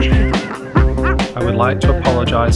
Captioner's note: laughing